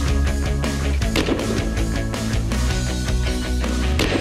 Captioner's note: gunshots